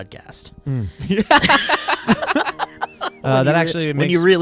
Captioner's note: laughs